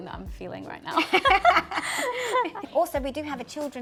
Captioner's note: both laugh